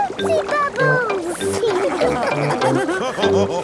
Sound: all laughing

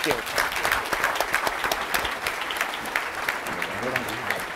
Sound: audience applauding

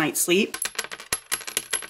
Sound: coin dropping

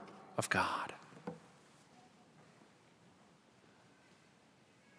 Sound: footsteps; silence

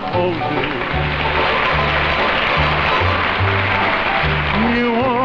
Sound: audience clapping

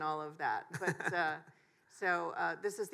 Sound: chuckles

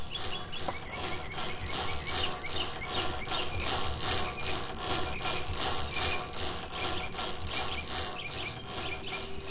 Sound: chain cranking

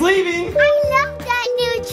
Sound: doorbell ringing

